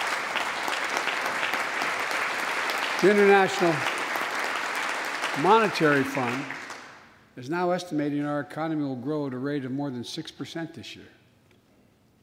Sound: applause

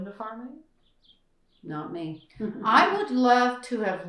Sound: laughter

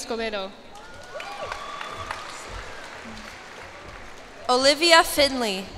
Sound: cheers and applause

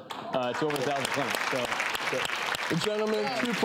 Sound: audience applause

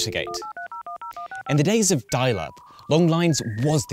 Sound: telephone beeping; modem beeping

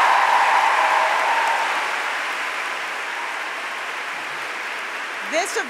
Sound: applause

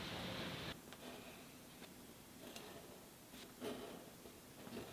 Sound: pencil scratching

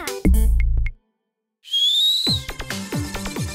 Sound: whistles authoritatively

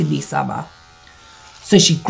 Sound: electric hair clippers buzzing

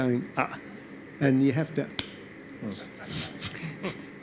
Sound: slaps; audience laughs

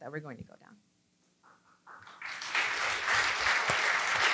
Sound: applause

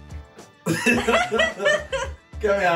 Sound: laughs

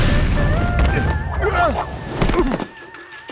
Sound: groaning

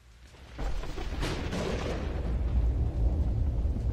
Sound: thunder rumbling

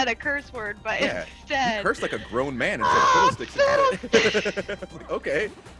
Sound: laugh

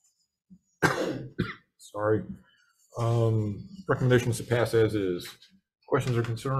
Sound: coughs

